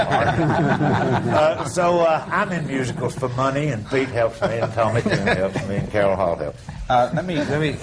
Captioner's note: laughter